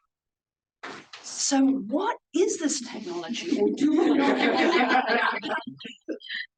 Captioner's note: audience laughs